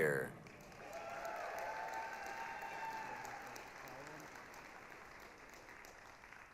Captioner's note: applause, cheering